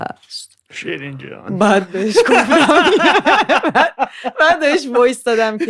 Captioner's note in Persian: خنده